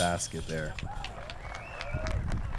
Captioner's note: applause